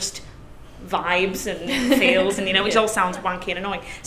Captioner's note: laugh